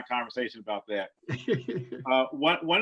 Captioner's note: laughs softly